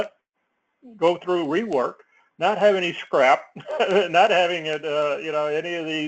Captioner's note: laugh